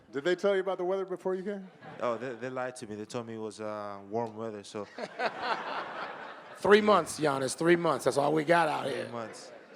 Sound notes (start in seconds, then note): 5.2 moderator laughing